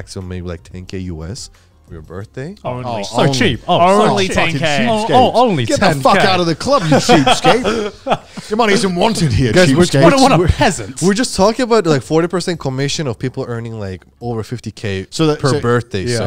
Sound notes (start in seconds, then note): 3.0 group chattering